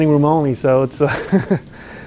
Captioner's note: laughs